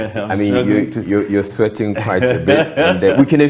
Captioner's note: laughs